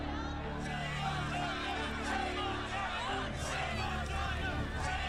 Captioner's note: shouting and chanting